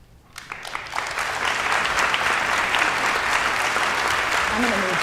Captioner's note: audience applauding